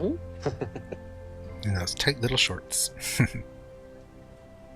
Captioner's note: chuckling